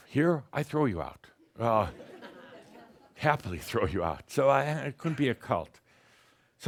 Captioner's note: a few chuckles